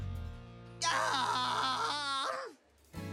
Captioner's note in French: Peng crie